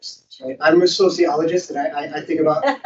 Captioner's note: host laughing